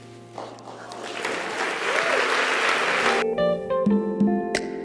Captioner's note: audience cheers